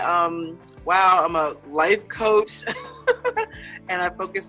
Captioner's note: laughs